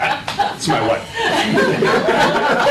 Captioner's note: laughter